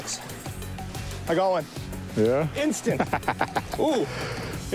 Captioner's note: laughs